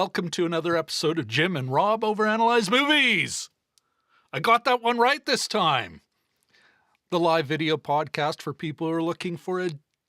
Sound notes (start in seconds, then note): none